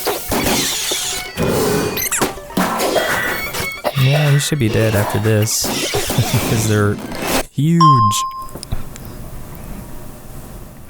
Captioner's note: haha